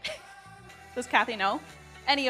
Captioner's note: giggles